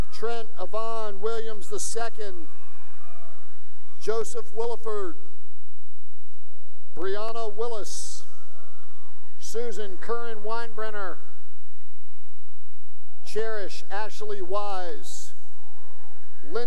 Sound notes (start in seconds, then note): 1.2 cheering; 8.2 cheering